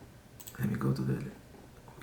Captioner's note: mouse clicking